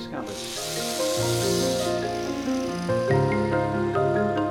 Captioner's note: electric saw noise